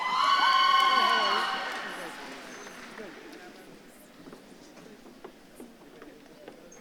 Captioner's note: audience claps and cheers